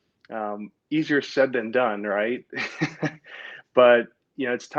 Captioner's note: laughs